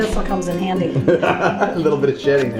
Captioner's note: laughing